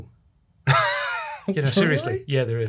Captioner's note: chuckles